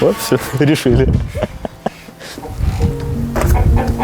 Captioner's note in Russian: смеются